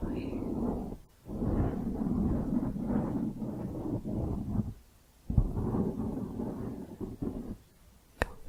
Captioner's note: circular mic scratching